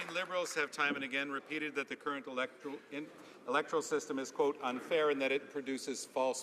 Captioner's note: some Applause